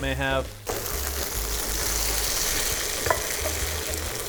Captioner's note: tofu sizzling